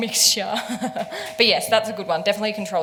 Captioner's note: laughs